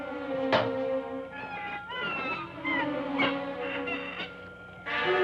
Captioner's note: Helene squawking; ominous music